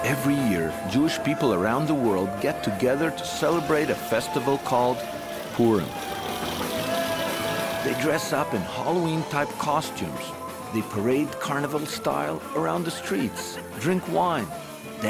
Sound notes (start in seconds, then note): 0.0 lively band music; 6.3 crowd cheers; 6.3 shakers rattling